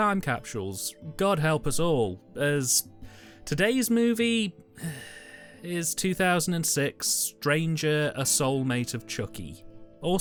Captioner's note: sigh